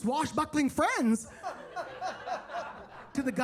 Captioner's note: attendees laughing